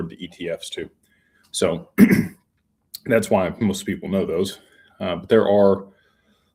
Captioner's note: clears throat